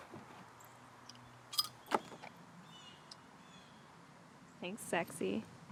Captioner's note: bottle cap rattles